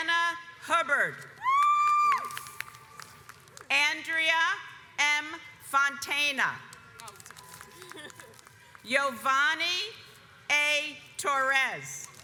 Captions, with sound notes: Gianna Hubbard (audience cheers) Andrea M. Fontana Jovanni A Torres